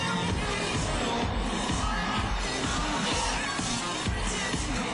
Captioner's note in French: Cris de la foule